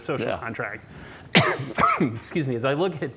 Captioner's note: coughs